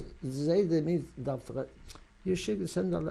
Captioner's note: non-english